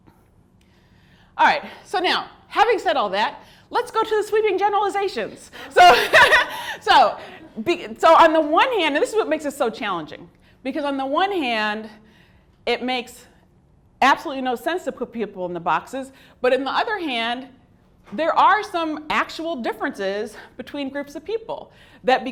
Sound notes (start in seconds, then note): 5.6 laughs